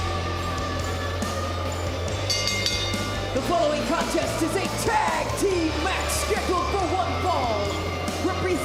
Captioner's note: bell